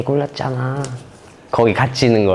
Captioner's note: humph